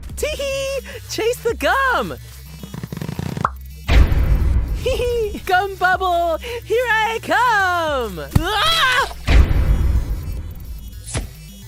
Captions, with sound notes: Teeheee! Chase the gum! [Popping sound] [Loud thud] Teehee, gum bubble! Here I come! [Loud thud]